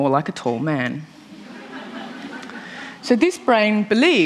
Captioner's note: laughter